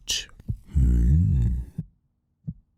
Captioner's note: heart beating